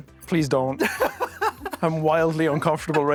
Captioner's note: laughs